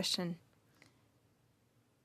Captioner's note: speaking French